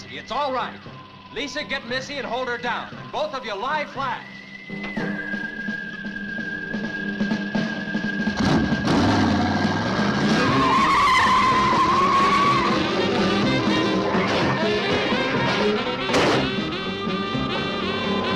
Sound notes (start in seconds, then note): 8.4 engine revving; 10.3 tires screeching; 13.1 suspenseful music; 15.4 ground rumbling